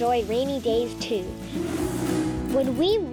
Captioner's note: whooshing sound